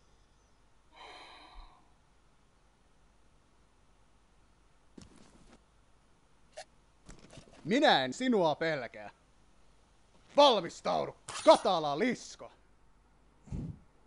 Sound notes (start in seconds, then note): 0.9 deep sigh